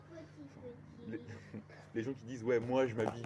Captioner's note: chockle